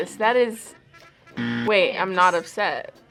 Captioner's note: buzzer rings